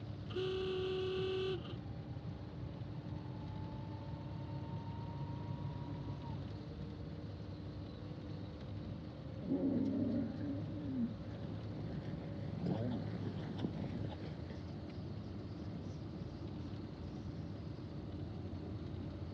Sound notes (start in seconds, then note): 0.3 horn honks; 9.6 camels groaning